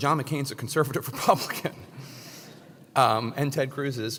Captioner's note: laugh